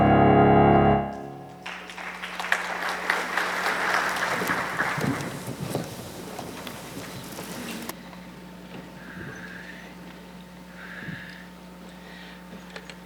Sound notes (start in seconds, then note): 1.1 audience clapping